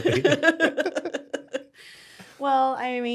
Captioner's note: laughing